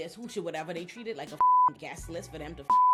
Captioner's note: beep